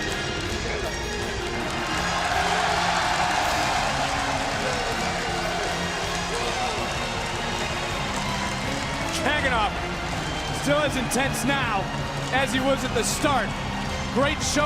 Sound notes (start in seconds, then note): 1.7 crowd cheering